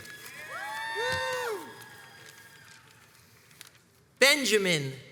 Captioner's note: crowds cheers and applauds